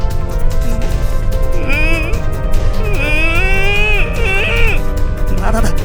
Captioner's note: angrished groan